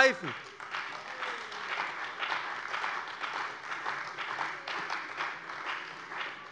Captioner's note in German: Beifall bei dem BÜNDNIS 90/DIE GRÜNEN und der CDU